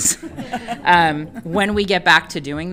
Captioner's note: all laughing